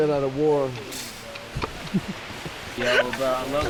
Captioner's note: laughing